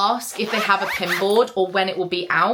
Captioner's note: zipper zipping